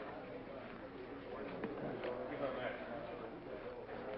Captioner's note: audience murmurs